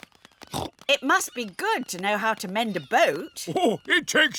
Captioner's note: snorts